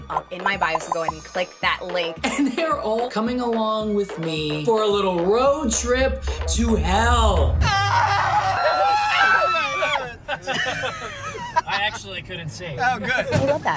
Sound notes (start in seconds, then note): 7.5 Steve screaming; 10.7 group laughing